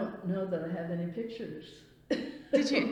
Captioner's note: laughs